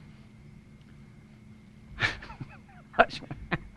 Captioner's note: laughing